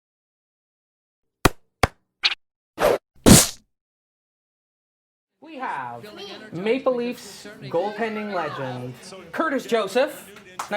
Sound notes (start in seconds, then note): 0.6 playful sound effect; 10.5 applause